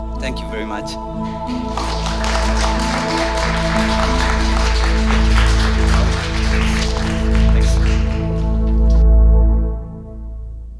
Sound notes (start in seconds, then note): 1.5 applause